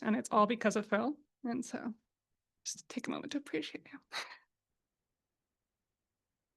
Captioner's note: sobs